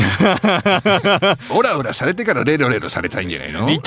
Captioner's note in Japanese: 笑い